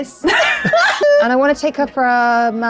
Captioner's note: group laughs